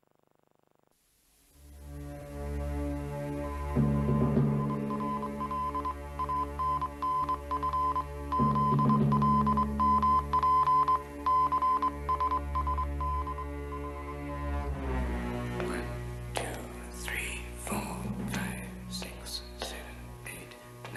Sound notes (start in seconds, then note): 3.3 morse code beeping